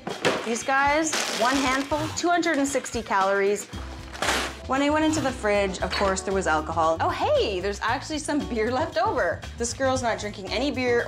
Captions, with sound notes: These guys, one handful, 260 calories. (packets crumpling) When I went into the fridge, of course there was alcohol. Oh, hey, there's actually some beer left over. This girl is not drinking any beer